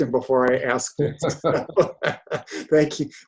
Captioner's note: laughter